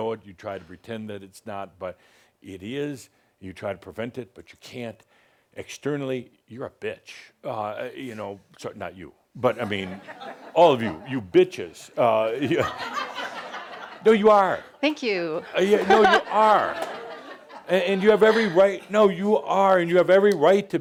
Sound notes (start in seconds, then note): 9.5 laughter; 12.4 more laughter; 15.4 laughter